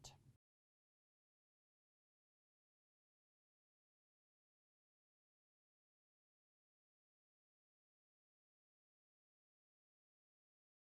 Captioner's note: no Sound Present